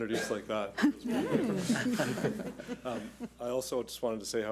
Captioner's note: board members laugh